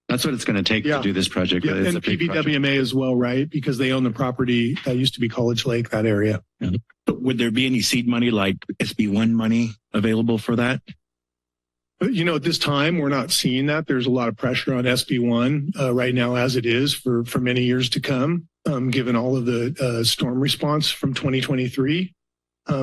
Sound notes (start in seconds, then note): 10.9 silence